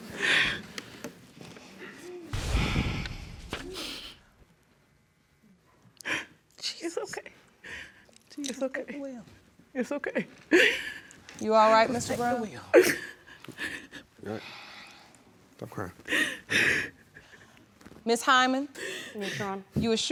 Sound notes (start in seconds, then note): 0.1 sobs; 3.4 sighs; 12.7 sobbing